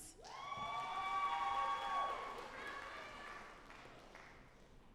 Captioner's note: audience applauding